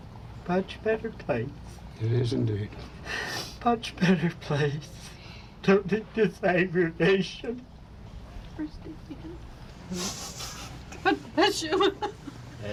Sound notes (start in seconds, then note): 3.9 sobbing; 11.6 sobbing